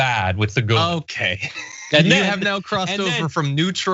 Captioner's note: laugh